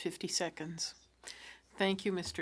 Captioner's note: speaking French